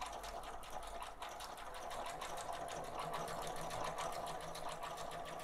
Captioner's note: sewing machine humming